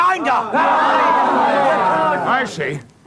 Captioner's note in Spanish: Gritos